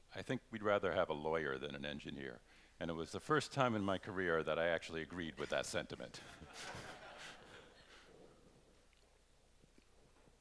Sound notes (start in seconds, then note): 6.2 laughter